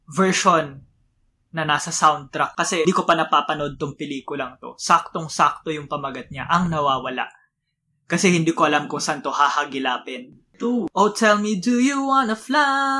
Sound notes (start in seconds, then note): 5.0 filipino